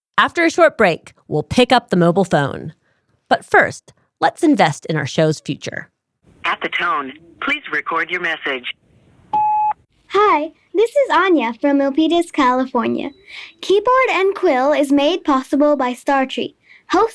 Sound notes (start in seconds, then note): 9.3 phone beeps